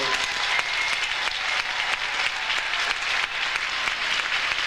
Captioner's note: audience cheers